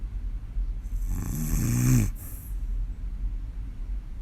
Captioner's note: snoring